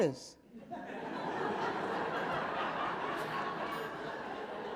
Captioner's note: audience laughing